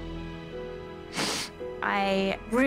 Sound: sniffles

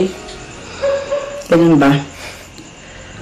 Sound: sighs

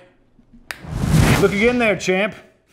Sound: whooshing; snapping

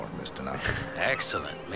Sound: laughs

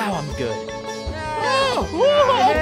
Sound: Cory & Shawn Yelling

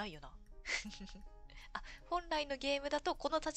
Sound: laughs

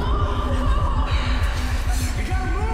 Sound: girls yelling

